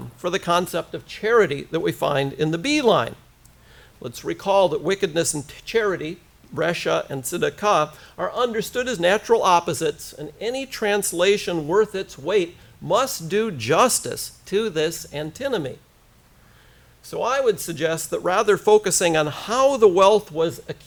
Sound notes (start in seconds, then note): 6.8 hebrew